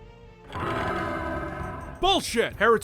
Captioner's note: rattle!